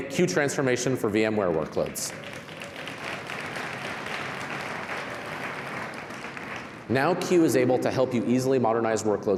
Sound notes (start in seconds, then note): 1.3 applause